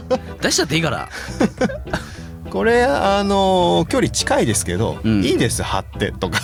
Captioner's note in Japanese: 笑い